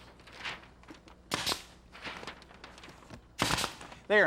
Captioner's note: nail gun popping